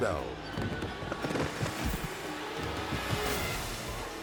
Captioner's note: thuds